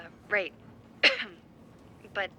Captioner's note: coughs